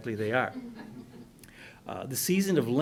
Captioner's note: muffled laughter